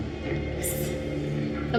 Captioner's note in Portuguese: sussurra